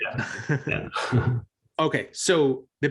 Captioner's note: both chuckles